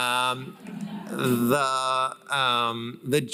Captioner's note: laughter